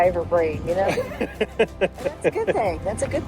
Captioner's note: laughing